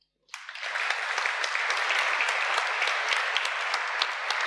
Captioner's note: applause